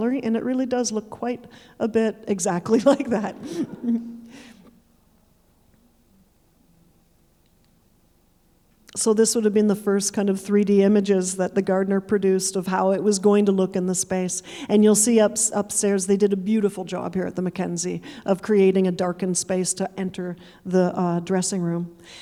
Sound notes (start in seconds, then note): 2.8 chuckling; 2.8 audience chuckling